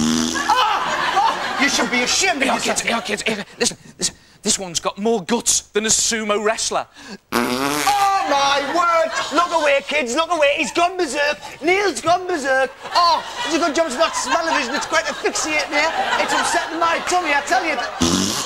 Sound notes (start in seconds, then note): 0.0 farts a 5th time; 7.3 farts a 6th time